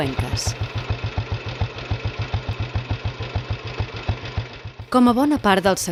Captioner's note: motorcycle engine